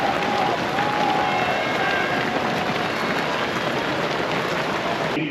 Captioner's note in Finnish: Aplodeja